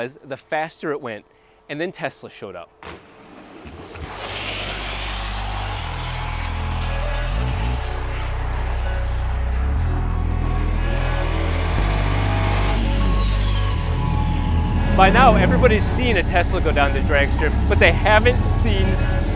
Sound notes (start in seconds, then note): 4.0 car screeching; 10.7 car engine revving